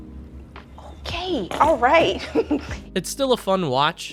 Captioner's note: laughs